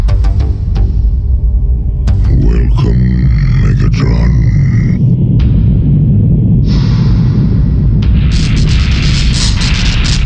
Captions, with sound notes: (loud, deep rumble) Welcome, Megatron.